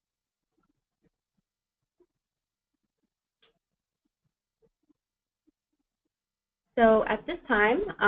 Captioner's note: pause